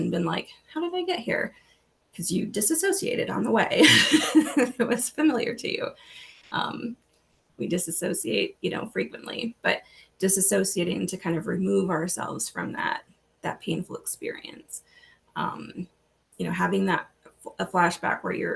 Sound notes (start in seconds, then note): 3.8 laughs